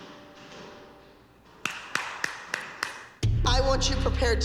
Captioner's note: applause